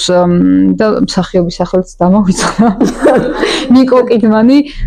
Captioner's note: giggle